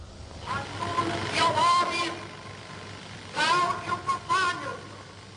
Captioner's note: speaking foreign language